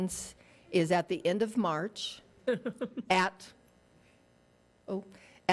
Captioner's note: woman giggling